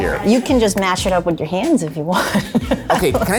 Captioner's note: laughs